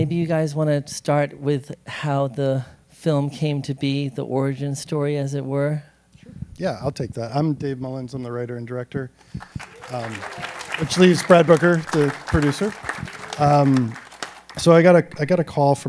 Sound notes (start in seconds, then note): 9.2 applause